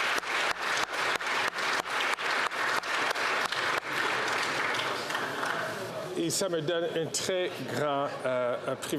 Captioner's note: applause